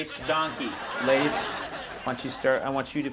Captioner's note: audience laughing